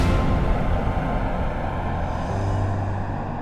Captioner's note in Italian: Razzo che decolla